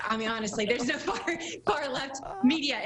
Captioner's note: laughing